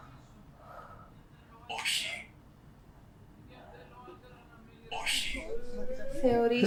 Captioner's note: achmet – artificial male voice